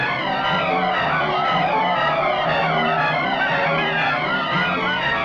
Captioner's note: dramatic music; men shouting